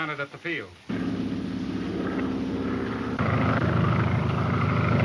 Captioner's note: plane engine roars